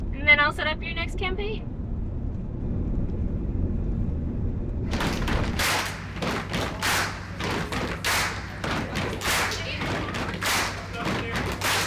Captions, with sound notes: And then I'll set up your next campaign. [audience cheering] [audience stomping]